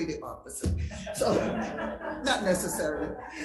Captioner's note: crowd laughs